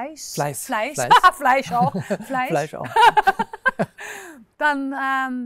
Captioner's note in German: lacht